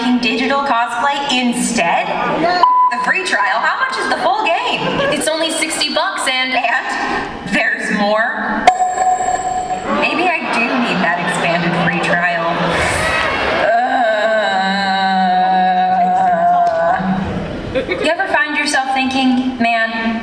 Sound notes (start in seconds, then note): 8.2 audience groans